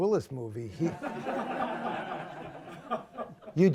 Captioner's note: laughter